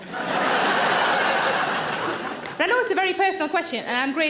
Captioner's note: audience laughs